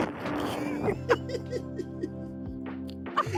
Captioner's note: laughing